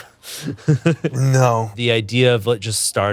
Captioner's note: laughs